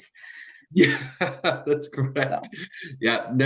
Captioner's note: laughs